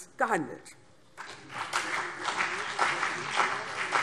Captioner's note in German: Beifall CDU und BÜNDNIS 90/DIE GRÜNEN